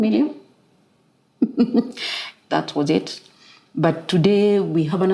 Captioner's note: laugh